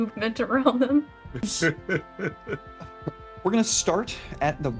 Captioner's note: laughter